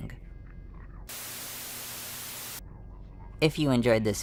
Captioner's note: TV Static